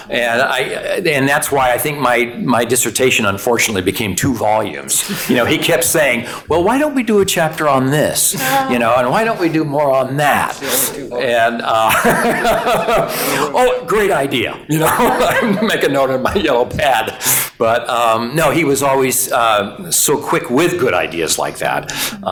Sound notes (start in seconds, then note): 9.9 laughing